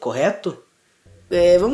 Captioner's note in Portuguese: silencio